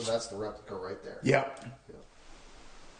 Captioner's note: voiceover